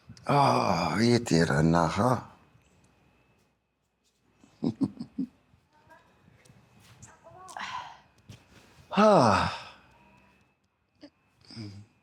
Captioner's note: sighs